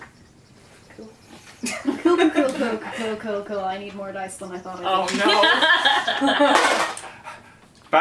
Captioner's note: laughter